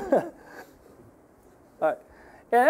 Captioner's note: laughing